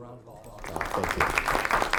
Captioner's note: audience clapping